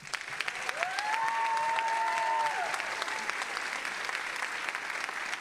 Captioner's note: all applauding and cheering